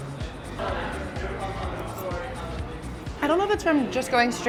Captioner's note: patrons chattering